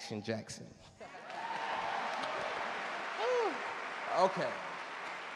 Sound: audience cheer and clap

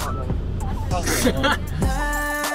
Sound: laughing

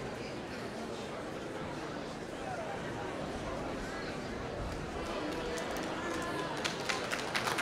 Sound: applause

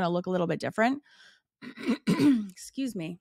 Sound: clears throat

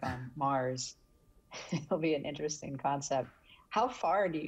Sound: laughing

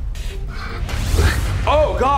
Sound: heavy breathing; zapping

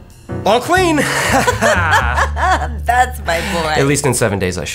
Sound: laughing

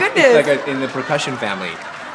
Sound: laughter

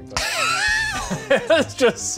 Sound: laughs

